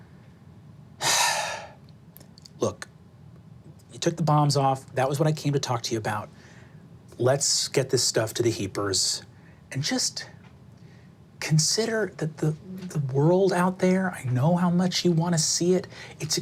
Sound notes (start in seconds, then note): 1.0 sighs